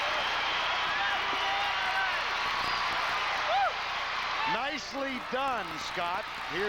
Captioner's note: applause